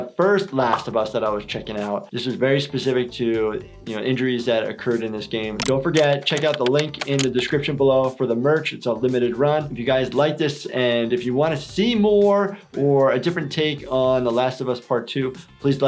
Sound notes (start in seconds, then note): none